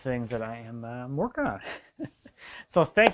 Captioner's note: laughs